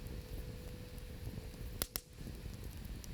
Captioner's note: none